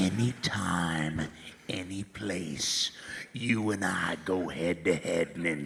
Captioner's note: laughs